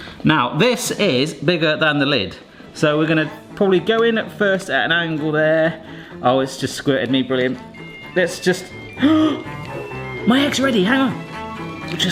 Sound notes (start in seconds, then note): 7.6 alarm rings; 8.9 gasps